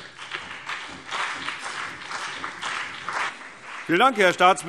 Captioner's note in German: Beifall CDU und BÜNDNIS 90/DIE GRÜNEN